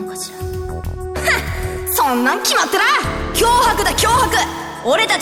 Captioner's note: dismissive huff